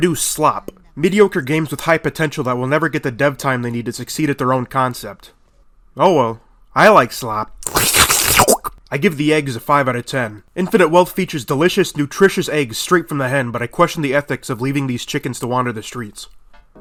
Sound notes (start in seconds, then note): 7.6 disgusting eating noises